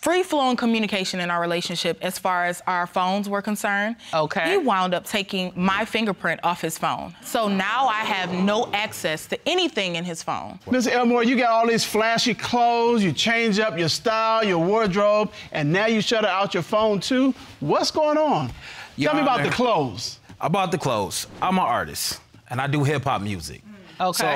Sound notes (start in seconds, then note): 7.7 audience exclaiming